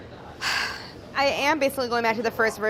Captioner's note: sighs